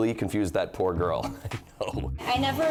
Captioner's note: chuckling